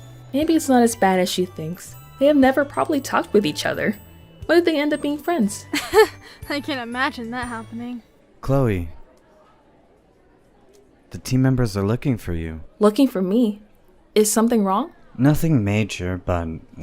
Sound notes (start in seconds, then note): 5.7 chuckles